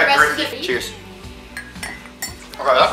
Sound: clinking I recorded with two mugs using voice memos

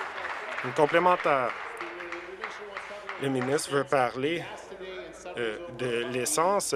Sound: applause

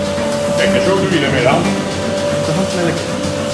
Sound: speaking dutch

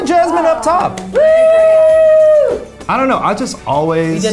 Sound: cheering

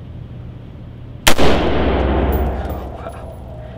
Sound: gunshot

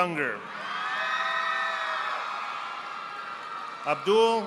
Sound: audience applauding

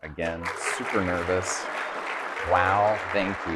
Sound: audience clapping

